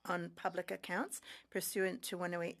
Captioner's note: speaking French